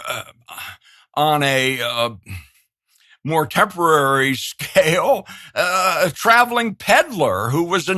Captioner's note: laughs